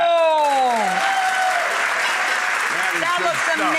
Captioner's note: audience applauds